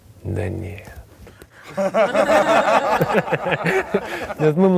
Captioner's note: everyone laughs